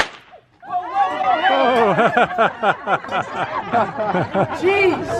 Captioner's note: laughter